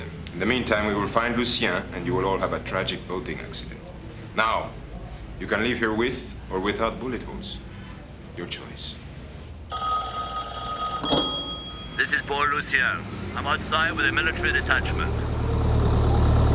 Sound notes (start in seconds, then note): 9.7 telephone rings